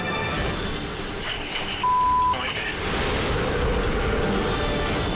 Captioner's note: beep